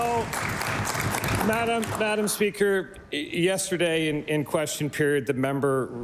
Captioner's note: applause